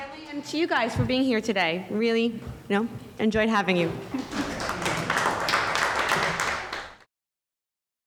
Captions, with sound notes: and to you guys for being here today. Really enjoyed having you. (audience clapping)